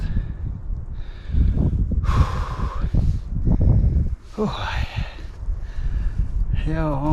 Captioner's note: gasps for fresh air